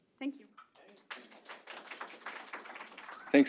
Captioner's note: audience applauding